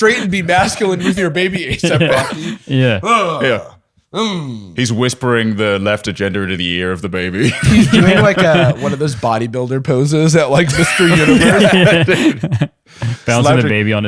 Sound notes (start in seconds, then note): 2.1 grunts; 10.6 laughter